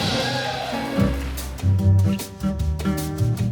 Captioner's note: crowd applauds